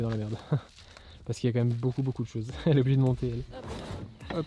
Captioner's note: laughs